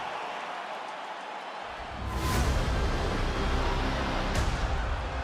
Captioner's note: crowd cheers